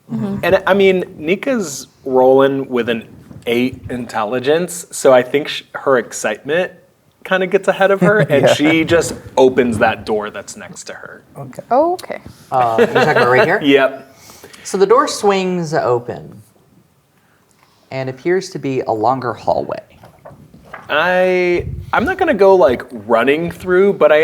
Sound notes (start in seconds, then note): 12.6 laughing